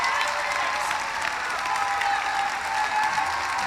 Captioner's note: applause; cheering